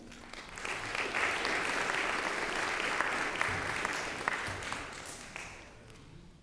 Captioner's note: applause